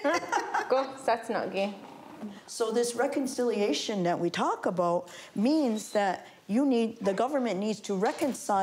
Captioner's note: laughter